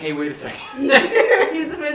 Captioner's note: laughs